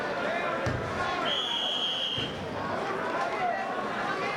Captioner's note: whistling